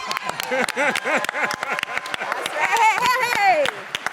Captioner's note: audience laughs and claps